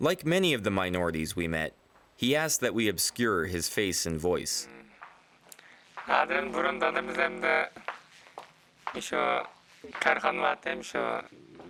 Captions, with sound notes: Like many of the minorities we met, he asked that we obscure his face and voice. (speaks in foreign language)